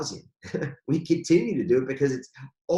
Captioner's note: laughs